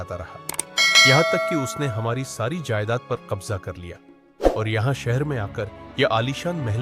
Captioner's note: sound of bell